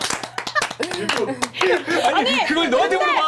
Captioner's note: clapping and laughing